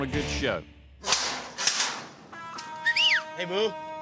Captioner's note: gate clanging open; whistles